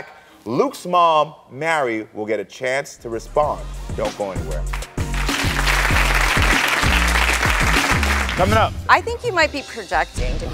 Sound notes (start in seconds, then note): 4.6 audience applauds; 5.0 hip hop music